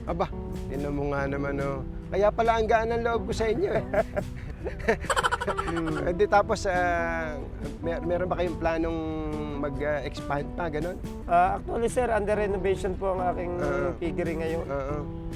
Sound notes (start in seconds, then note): 3.6 laugh